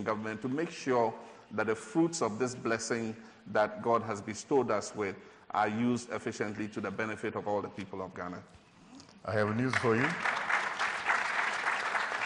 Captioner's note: applause